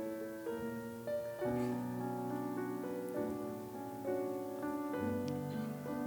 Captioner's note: none